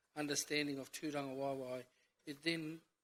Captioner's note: speaks in foreign language